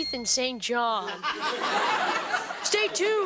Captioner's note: audience laughing